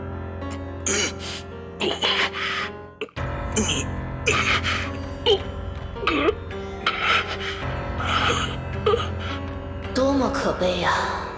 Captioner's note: urk; grrrgk